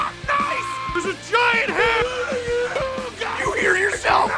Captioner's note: screaming; Harry potter screaming